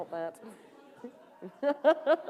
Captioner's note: laughter